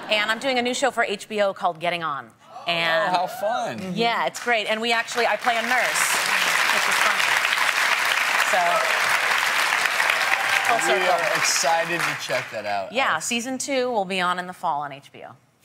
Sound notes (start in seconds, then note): 9.6 applause